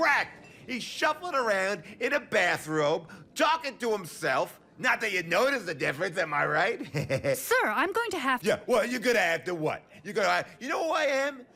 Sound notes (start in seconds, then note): 6.8 chuckling